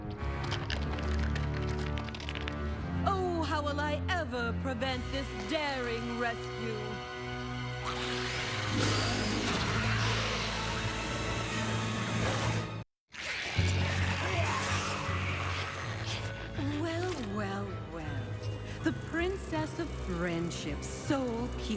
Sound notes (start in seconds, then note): 10.5 changelings hissing